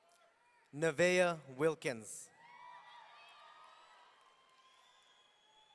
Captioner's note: audience cheering